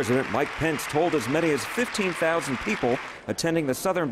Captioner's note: applause